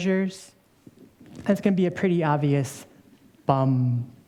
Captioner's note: vocalizing rhythmically